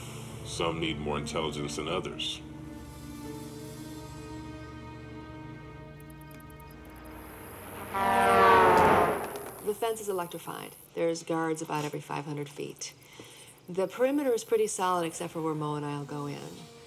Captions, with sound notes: - Some need more intelligence than others. (dramatic music) (cars honking) - The fence is electrified. There is guards about 500 feet. The perimeter is pretty solid, except for where Mo and I will go in.